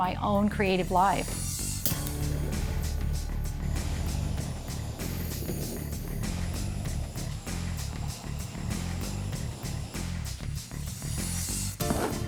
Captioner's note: blowtorch; spatula scraping